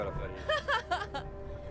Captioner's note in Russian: смех